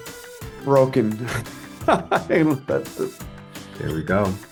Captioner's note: laughs